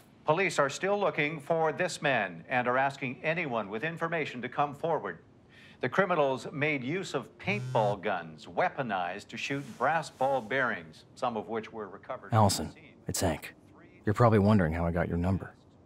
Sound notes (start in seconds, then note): 7.4 phone vibrating